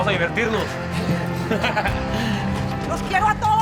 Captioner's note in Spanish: Risas